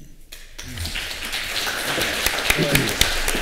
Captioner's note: applause